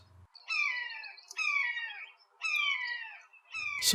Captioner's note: a hawk calls